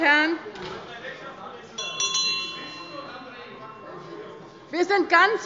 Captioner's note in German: Anhaltende Unruhe - Glocke des Präsidenten